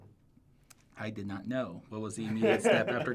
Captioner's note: laughs